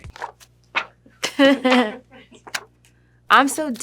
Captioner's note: chuckles